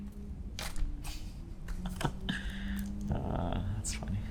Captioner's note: laughing